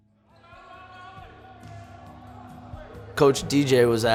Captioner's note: players yelling